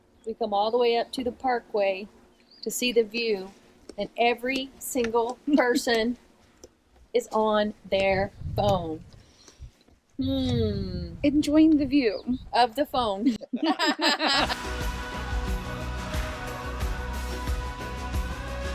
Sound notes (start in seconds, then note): 13.4 everybody laughing; 14.4 inspirational music